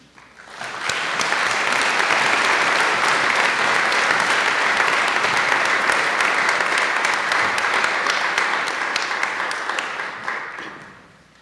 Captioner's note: applause